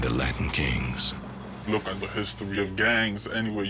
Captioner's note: distorted voice